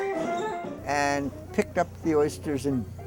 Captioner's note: baskets hitting the dock; hand cart wheels rolling; faint jazz music